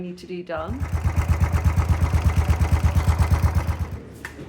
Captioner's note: motorbike engine